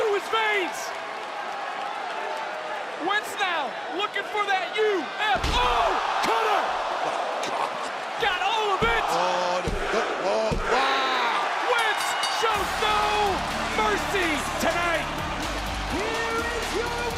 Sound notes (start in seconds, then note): 14.8 bell rings